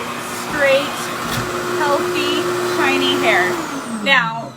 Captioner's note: hair dryer whirs continues